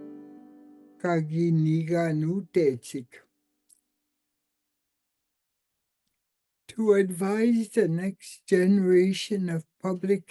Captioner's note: speaks in Cree